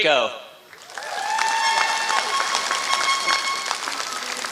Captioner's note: applause